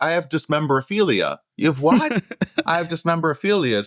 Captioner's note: laughter